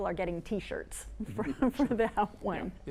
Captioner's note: laughs